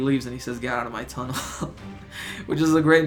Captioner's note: chuckles